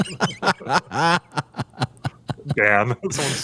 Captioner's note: laughter